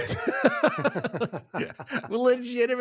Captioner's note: both laughing